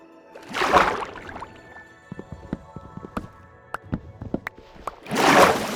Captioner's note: water splashing